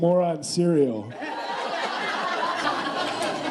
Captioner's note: laughing